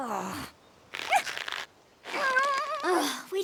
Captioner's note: groans; grunting; sighs